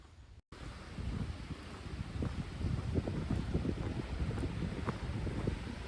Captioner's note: wind and water splashing